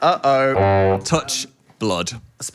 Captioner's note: horn sound effect